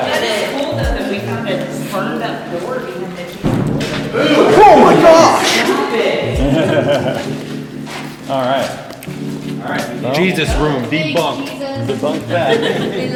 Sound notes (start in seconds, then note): 3.4 bang; 7.6 laughs